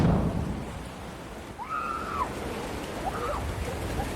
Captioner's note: excited screaming